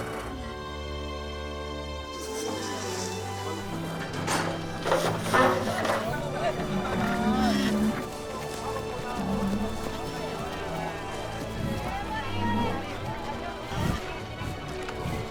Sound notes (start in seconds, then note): 4.8 doors clank open; 9.2 rhino grunts; 12.4 men shout